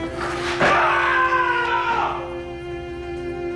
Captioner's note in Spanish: Grito